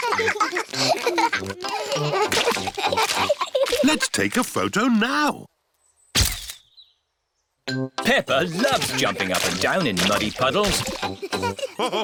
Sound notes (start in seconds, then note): 0.0 both giggling; 6.2 camera clicks; 11.8 all laughing